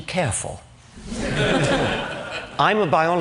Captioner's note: laughter